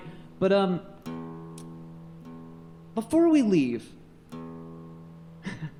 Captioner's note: laughs